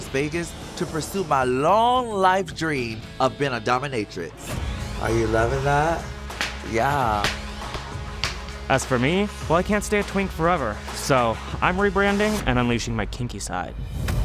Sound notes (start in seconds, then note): 6.3 paddle spanking